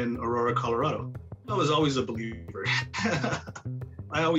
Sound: laughs

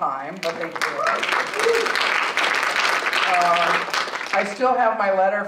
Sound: audience applauding

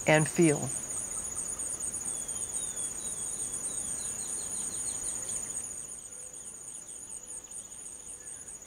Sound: wind blowing

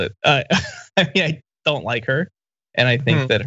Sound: laugh

